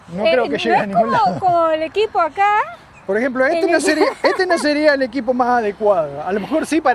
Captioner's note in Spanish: risas